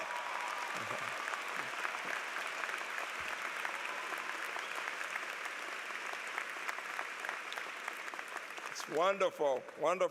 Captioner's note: applause